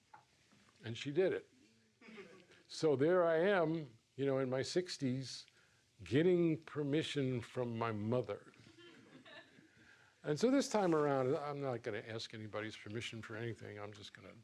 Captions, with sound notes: And she did it. So there I am in my 60s getting permission from my mother. [audience chuckles] And so this time around, I'm not going to ask anybody's permission for anything. I'm just going to,